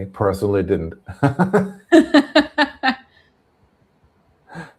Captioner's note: laughter